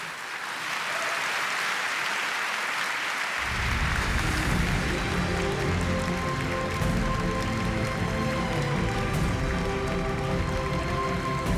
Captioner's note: applause